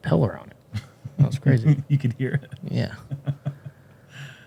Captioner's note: chuckles